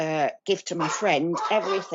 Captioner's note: dogs braking